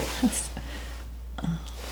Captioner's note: laughing; scratching